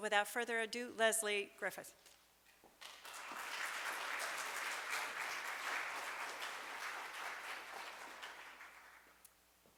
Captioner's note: applause